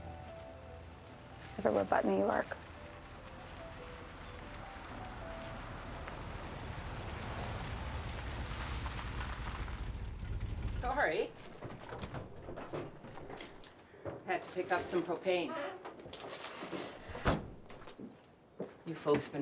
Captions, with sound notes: EVERYWHERE BUT NEW YORK. [VEHICLE APPROACHING] SORRY. HAD TO PICK UP SOME PROPANE. YOU FOLKS BEEN WAITING LONG?